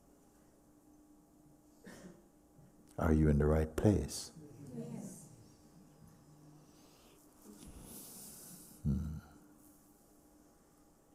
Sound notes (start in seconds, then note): 5.7 silence